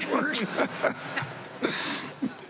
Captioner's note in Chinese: 笑聲